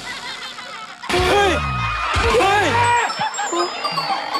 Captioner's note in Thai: เสียงตกใจ